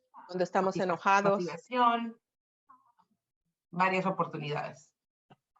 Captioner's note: speaking Spanish